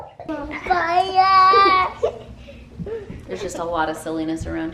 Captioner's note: babbling and laughing